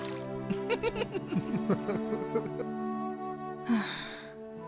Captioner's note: Valentino giggles; giggles; Asha sighs